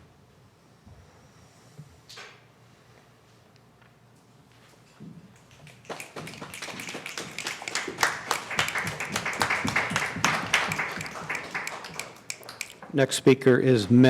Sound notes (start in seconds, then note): 9.4 crowd stomping their feet